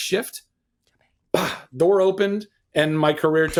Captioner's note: dramatic exhale